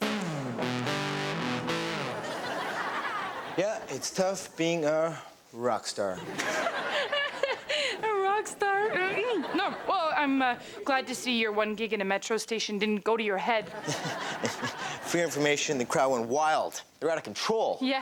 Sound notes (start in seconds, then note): 0.0 rock music; 0.1 audience laughs; 6.2 audience laughs; 6.4 Pattie laughs; 13.7 laughs